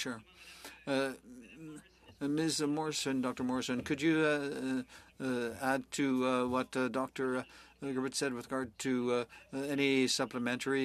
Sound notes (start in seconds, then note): 4.1 speaking French